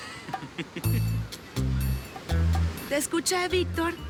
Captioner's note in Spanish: Risas